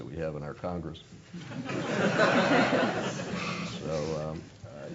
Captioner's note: laugh